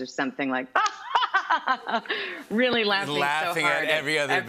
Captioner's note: laughs